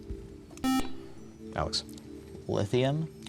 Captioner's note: buzzer